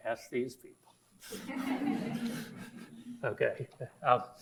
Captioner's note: audience laughs; laughs